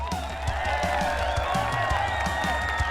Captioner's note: applause